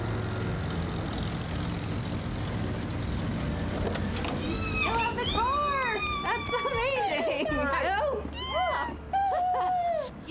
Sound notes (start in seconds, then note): 1.0 brakes squeal, car door opens; 4.4 ellie squealing